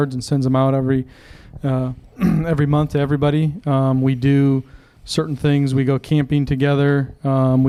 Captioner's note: clears throat